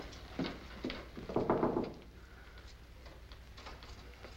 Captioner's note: knocking